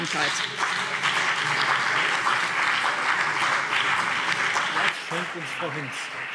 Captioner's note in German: Beifall BÜNDNIS 90/DIE GRÜNEN und CDU